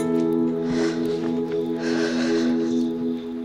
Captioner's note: Exhales